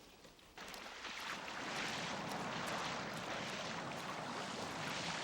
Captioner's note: water splashing